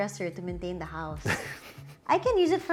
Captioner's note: chuckles